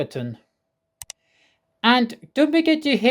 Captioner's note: click sound